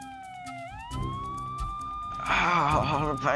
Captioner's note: sirens approaching